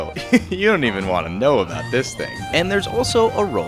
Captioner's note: nervous Luaghter